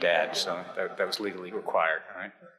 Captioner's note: audience chuckles